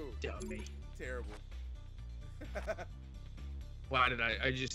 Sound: laugh

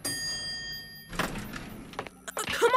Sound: dings

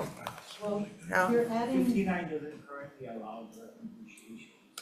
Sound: member speaks very faintly

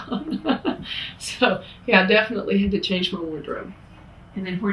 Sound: laughs

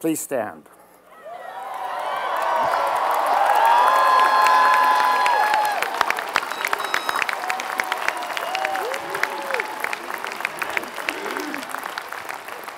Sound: applause

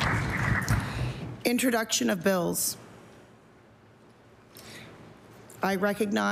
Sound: applause

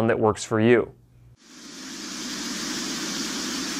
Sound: static

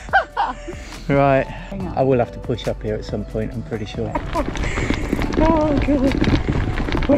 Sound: laughs; laughs

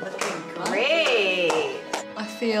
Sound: clapping

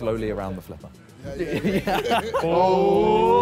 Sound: all laughing; all cheering

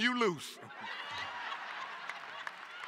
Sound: laughter

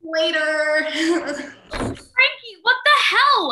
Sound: cabin door slams shut

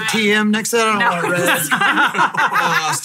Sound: hosts laughing

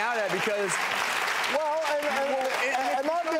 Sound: audience applauding

